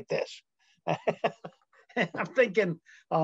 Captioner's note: laughing